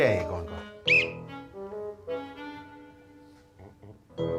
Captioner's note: whistle blows